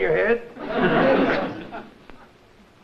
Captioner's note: spits